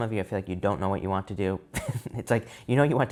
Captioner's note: laughs